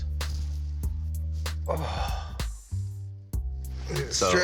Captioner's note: jazzy bass music; exhales